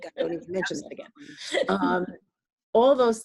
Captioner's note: chuckling